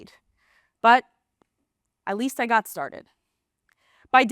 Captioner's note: gasp; gasp